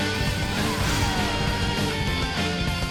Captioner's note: yelling